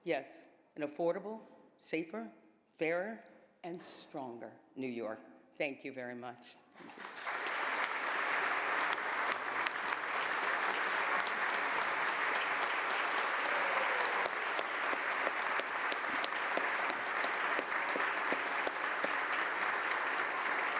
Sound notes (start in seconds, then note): 3.5 applause